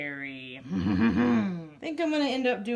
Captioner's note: laughs